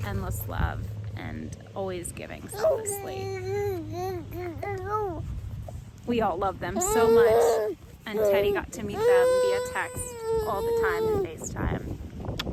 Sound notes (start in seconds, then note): 2.6 gurgling